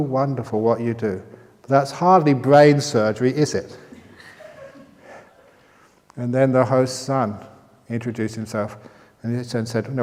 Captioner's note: laughter